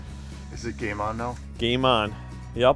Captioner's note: voiceover